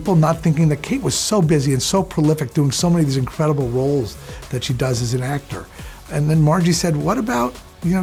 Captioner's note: none